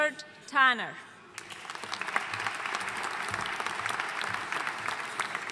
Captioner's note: audience applauding